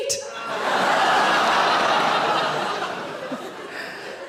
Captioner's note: audience laughing